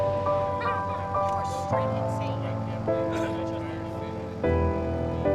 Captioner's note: people chatting